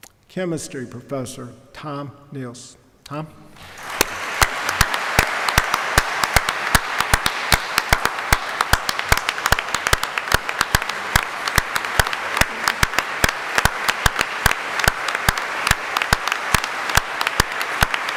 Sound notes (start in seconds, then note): 3.6 applause